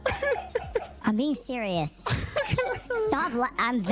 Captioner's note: continues laughing